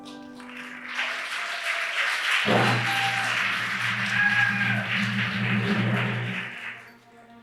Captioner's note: applause